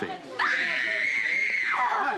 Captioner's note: angie screaming